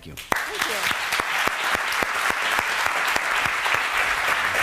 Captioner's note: clapping